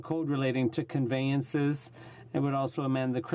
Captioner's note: speaking in french